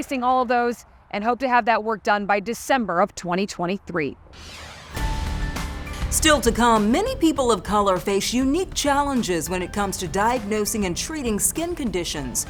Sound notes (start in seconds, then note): 4.0 intriguing music; 4.3 air whooshes